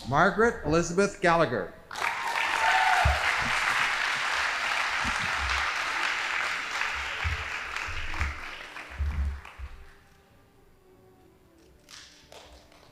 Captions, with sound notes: Margaret Elizabeth Gallagher. (audience applauding) (band playing)